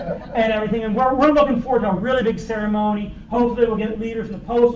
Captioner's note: laughter